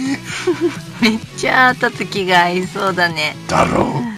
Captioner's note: laughs